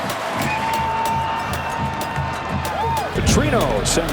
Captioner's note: crowd cheers